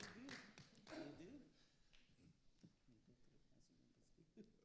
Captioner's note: quiet chatting and laughing